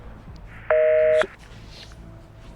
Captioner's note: phone line busy